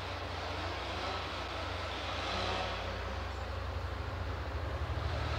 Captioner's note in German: Motorsägenlärm